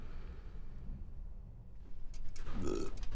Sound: belches

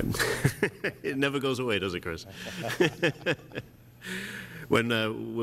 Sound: laughter; laughter

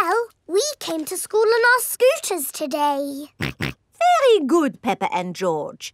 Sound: snorts

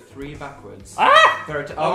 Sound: screams

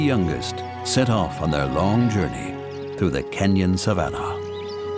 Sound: birds chirping

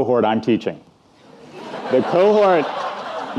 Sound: audience laughing

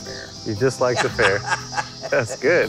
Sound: laughs

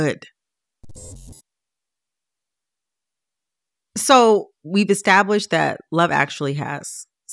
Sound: soundbite of electronic scratching sound

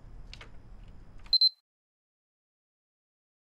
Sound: camera beeps

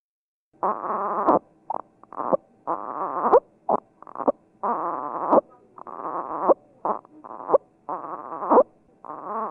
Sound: baby grunting

